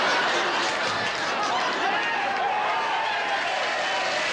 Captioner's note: laughter; cheering